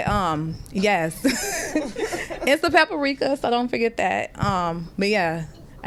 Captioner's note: laughter